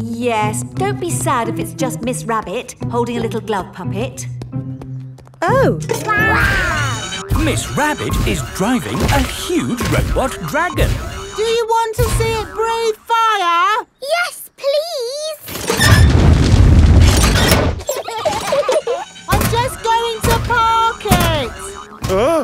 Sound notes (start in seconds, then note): 17.8 children giggling